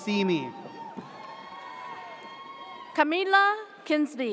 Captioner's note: audience cheers